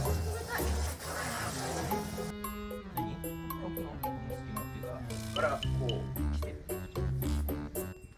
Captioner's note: laughs